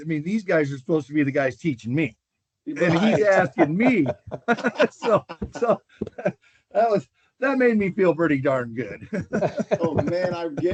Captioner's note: laughter